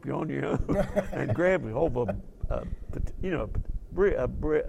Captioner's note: laugh